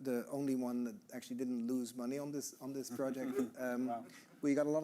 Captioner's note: all chuckling